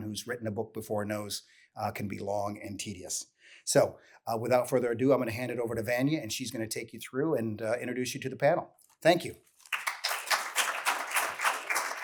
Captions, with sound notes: who's written a book before knows, can be long and tedious. So, without further ado, I'm going to hand it over to Vanya, and she's going to take you through and, introduce you to the panel. Thank you. [Applause]